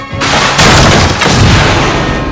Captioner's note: boom!